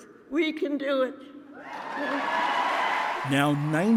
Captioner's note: cheering and applause